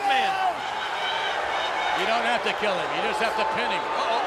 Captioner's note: applause